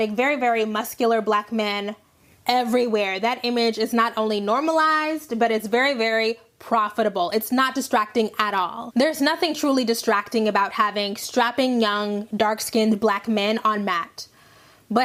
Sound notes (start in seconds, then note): none